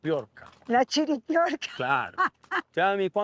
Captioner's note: laughter